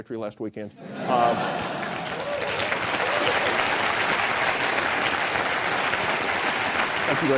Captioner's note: laugh; applause